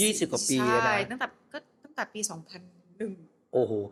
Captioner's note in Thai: เสียงหัวเราะ